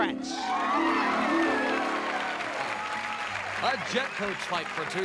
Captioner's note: applause